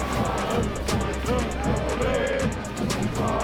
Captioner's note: players cheering; upbeat music